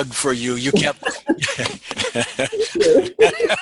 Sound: laughs

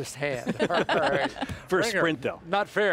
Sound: laughing

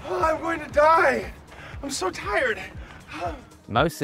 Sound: sighs

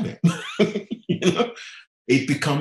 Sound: laughing

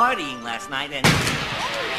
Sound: crushing sound

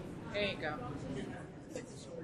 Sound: voiceover

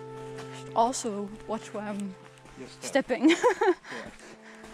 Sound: laughs

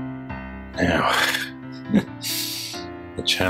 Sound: sighs

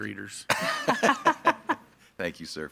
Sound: board members laughing

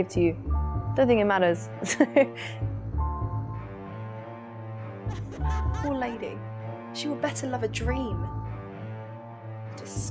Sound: laugh

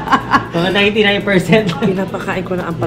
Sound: laughs; filipino

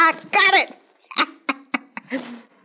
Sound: laughter

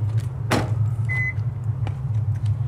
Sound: door slammed; car beeps

